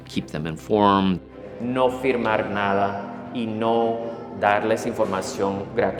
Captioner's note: speaking in Spanish